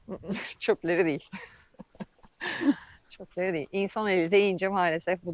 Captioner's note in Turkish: kahkaha